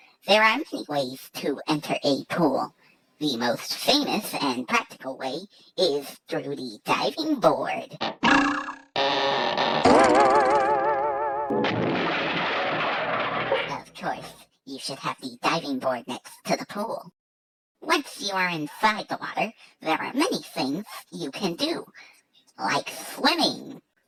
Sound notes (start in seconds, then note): 8.0 boing!; 9.0 creaking; 9.9 sproing!; 11.5 crashing